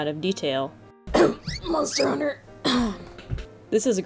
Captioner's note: cough